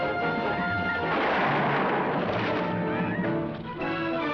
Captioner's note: gun firing